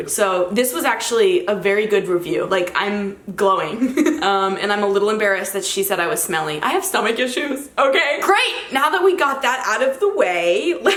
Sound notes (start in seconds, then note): 3.8 giggles